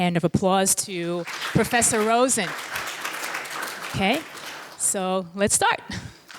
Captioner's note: applauding